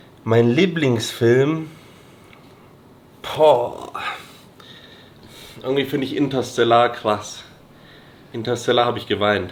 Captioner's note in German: schnauben